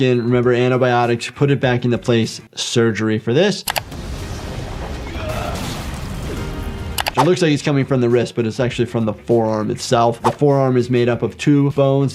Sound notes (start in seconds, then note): 3.6 screen clicking; 3.8 graphics rumbling; 6.9 screen clicking